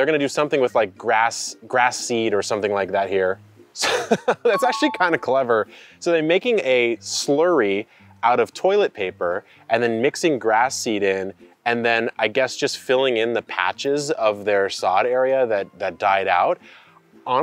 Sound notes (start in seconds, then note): 3.8 laughs